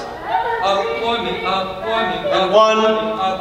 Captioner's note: mocking birds chatter